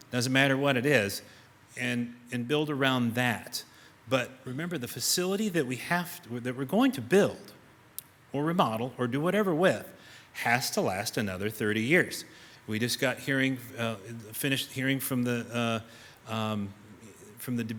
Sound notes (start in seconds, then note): none